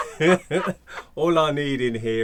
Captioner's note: laughing